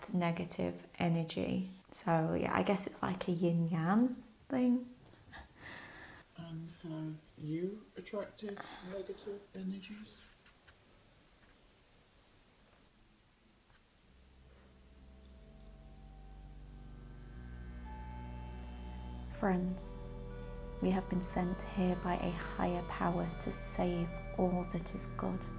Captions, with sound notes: negative energy, so yeah, i guess it's like a Yin Yan thing? I - And have you attracted negative energies? [it's those spacey scifi noises again...] Friends. We have been sent here by a higher power to save all that is good